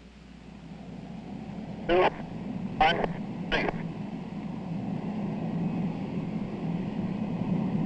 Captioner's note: jet engine firing